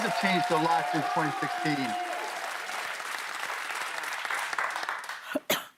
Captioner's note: cheers and applause